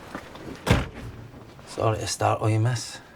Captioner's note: closes door